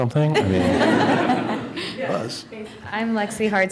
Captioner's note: laughter